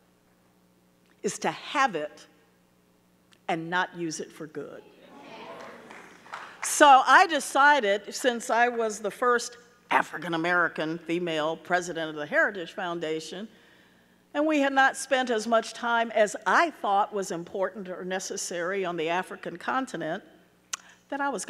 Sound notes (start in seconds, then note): 5.3 audience clapping